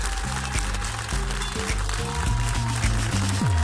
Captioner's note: audience applauding; applause